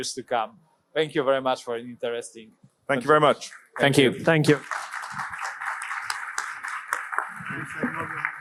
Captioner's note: applause